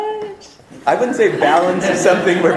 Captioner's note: audience laughter